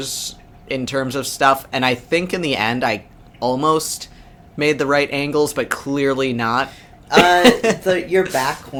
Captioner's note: laughs